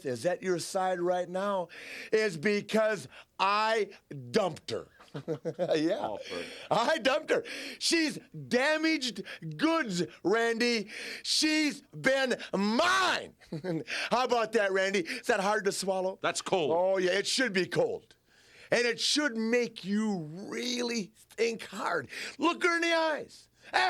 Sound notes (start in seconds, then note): 4.9 Curt and Flair laugh